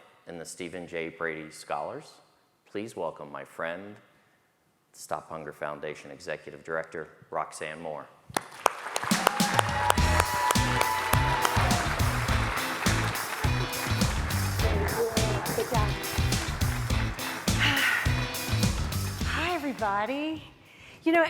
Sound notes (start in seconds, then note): 8.6 audience applauds; 8.6 upbeat music